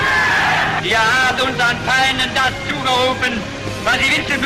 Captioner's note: speaking in German